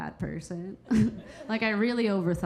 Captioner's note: Keira chuckling